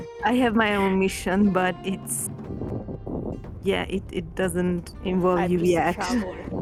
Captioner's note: none